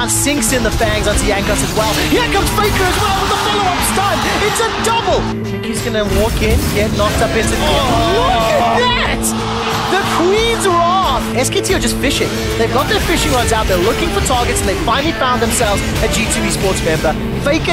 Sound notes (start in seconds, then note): 7.6 groans